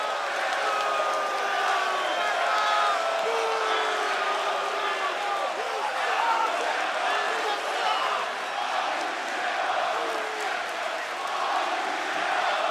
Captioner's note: cheers and boos